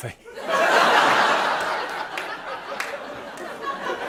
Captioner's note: laughter; laughter and applause; laughter continues